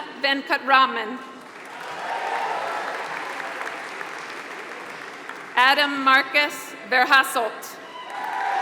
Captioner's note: applause; applause